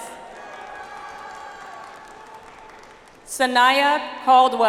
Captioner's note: audience applauds